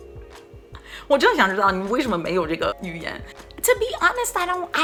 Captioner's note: speaking in foreign language